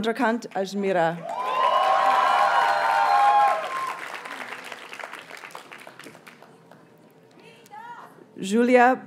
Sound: audience cheers and applauds

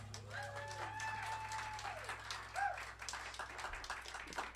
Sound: music stops; cheers and applause

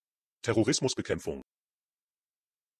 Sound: fast Pronunciation

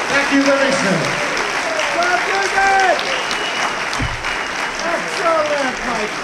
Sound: applause

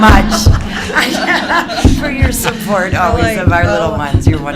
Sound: laughter

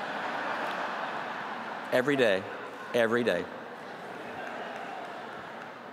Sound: laughter

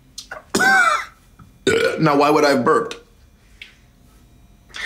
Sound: burps

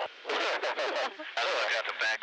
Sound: laughs

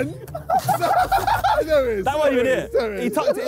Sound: Sidemen laughing

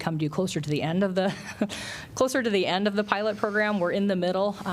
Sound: laughter

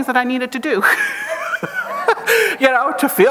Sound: chuckles

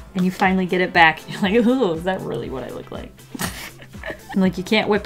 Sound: laughs

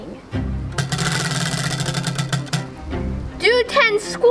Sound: wheel clanks around metal axle

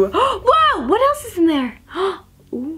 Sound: gasp

